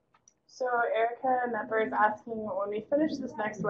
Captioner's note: voiceover